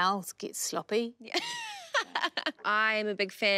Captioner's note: laughs